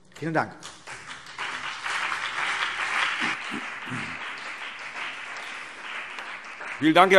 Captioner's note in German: Beifall CDU und BÜNDNIS 90/DIE GRÜNEN